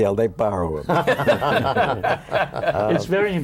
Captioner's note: laughter